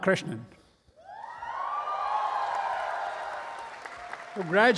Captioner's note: audience cheering